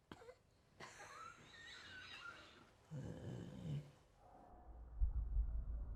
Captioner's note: coughing; coughs